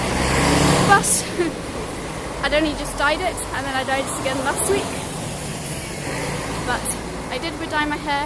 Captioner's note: loud bus